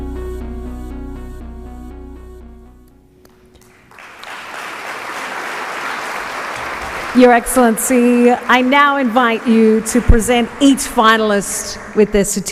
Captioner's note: applause